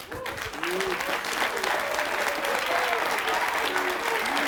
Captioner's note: audience clapping